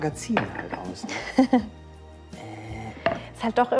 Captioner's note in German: Sally lacht